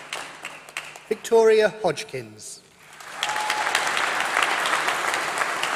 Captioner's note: applause